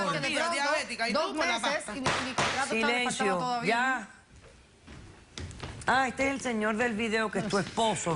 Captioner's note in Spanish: Hablan al unísono